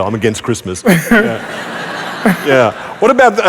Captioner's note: laughter